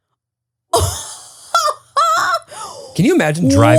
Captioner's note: laughs